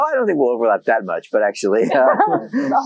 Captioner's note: laughs